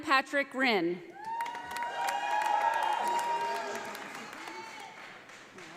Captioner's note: audience applauding